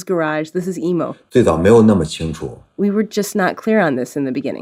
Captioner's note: speaking Mandarin Chinese